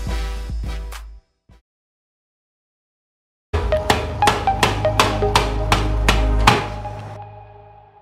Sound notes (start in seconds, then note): 3.6 hammering sound